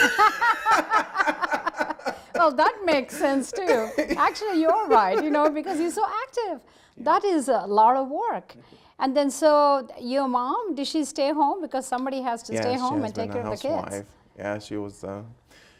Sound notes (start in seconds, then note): 0.0 Gingrich and Bullis laugh; 3.7 laughs